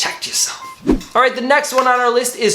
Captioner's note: swoosh